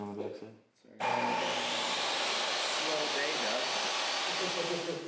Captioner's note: machinery drills